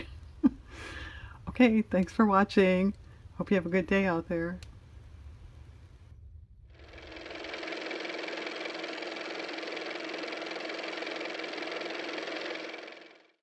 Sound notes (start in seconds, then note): 5.0 car motor